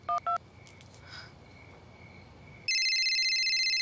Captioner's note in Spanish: Sonido al marcar; Suena el celular